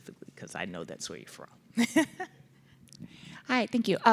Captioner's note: laughs